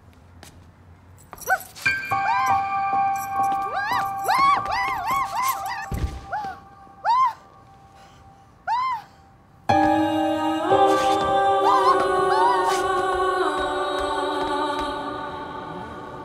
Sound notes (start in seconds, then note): 0.0 speaking in foreign language; 1.7 screaming; 7.3 panting; 12.0 screaming